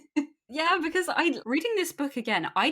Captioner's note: laughs